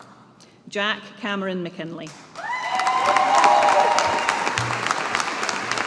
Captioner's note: audience applauding